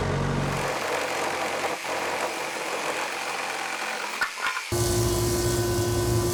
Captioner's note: tools buzzing and whirring